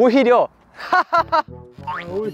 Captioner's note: laugh heartily like this